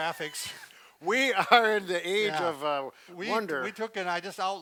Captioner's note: laughs